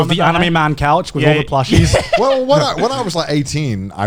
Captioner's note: laughs